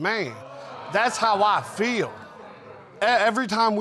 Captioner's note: audience exclaiming